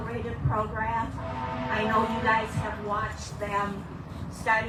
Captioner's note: train horn in distance